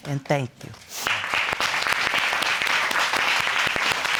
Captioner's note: audience applauding